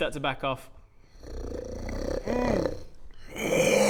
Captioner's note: unhappy growling that's definitely 100% fine